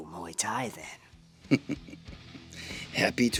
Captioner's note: chuckles